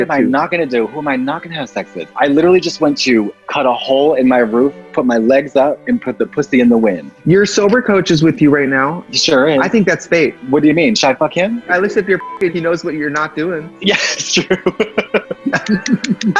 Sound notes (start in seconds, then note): 12.2 beep; 14.7 laughs